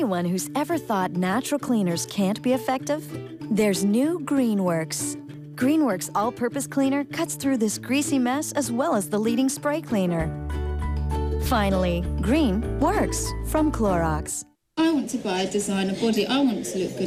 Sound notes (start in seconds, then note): none